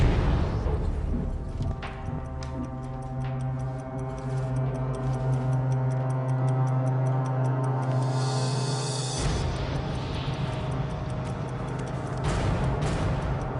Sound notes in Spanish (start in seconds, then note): 6.3 sonido apresurado de un reloj